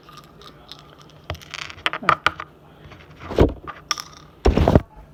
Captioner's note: sound of pills being taken from a bottle